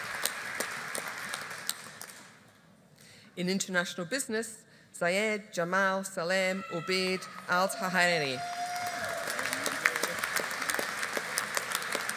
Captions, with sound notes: In International Business, Zayed Jamal Salem Obaid Aldhaheri. (AUDIENCE APPLAUDING)